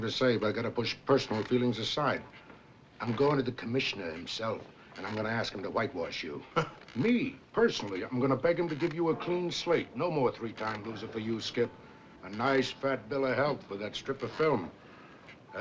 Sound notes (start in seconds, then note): 6.5 chuckles